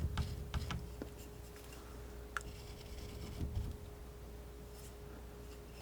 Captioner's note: scratching